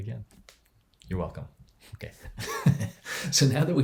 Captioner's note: laughs